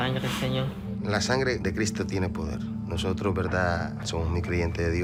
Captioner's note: speaking Spanish